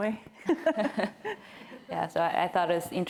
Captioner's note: laughter